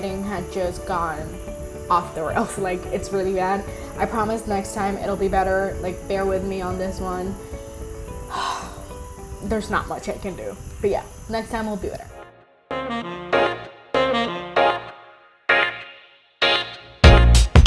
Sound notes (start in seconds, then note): 8.3 sigh; 12.4 outro music